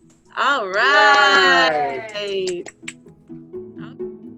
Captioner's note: clapping